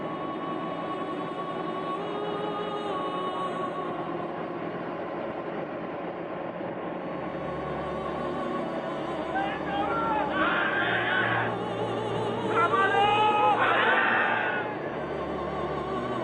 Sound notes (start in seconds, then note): 5.1 somber music continues; 9.2 soldiers shouting